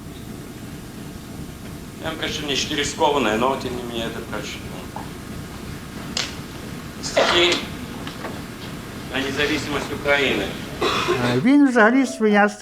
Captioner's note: Russian